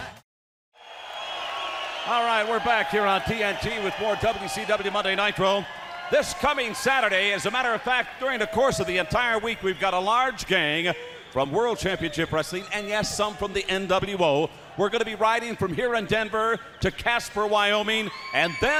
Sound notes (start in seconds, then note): 2.1 crowd cheering